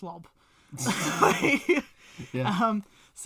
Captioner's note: laughs